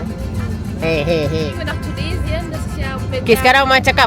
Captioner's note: speaking German